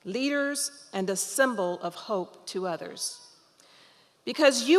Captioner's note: none